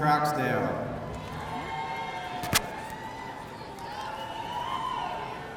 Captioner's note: audience cheering